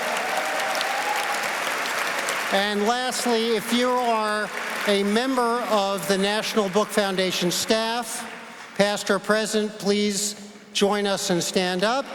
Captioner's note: applause